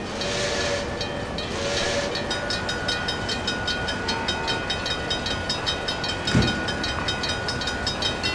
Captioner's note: PRR FG-1 whistle, railroad crossing ringing; wig wag ringing